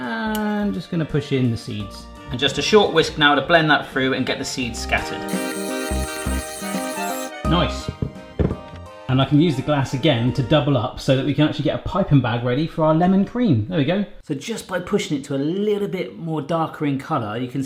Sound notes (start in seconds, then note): 5.3 mixer whirring; 5.3 soft upbeat music